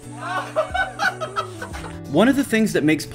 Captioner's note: Paul laughs excitedly